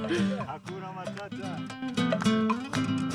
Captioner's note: Swahili